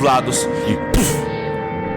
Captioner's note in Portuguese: Puff